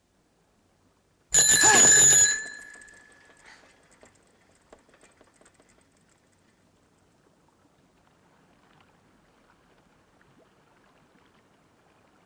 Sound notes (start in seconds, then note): 1.4 sudden ringing